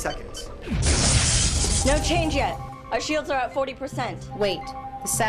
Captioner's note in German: Explosion